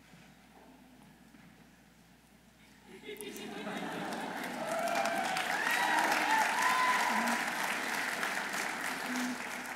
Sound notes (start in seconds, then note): 2.8 audience laughing; 6.3 audience applauding